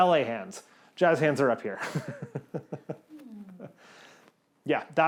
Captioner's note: chuckles